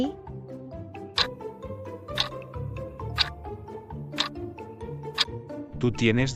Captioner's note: FX - Clock Tick